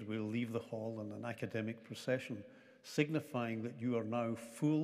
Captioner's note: none